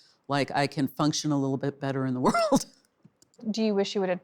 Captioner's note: laughs